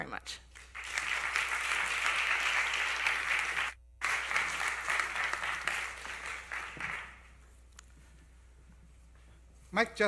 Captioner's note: applause